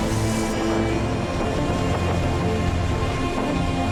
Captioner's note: high winds